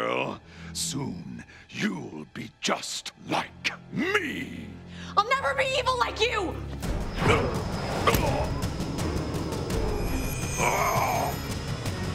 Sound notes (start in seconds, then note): 6.8 grunting; 10.4 grunting